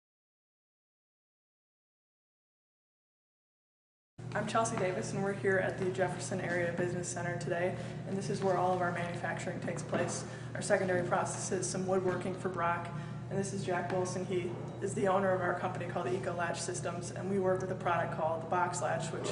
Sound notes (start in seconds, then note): 0.0 silence